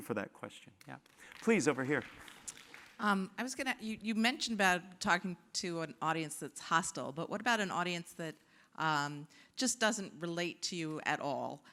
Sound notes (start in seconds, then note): 0.9 applause